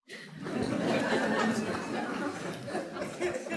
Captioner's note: audience laughs